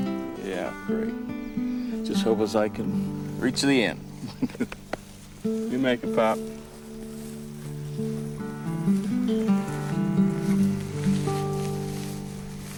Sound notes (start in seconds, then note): 4.2 chuckles